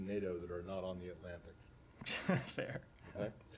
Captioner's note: laughter